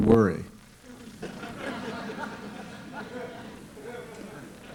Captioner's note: laughter